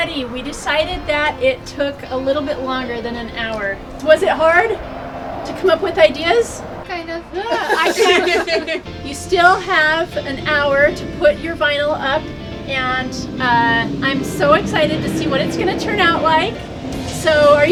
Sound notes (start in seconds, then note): 7.4 all laugh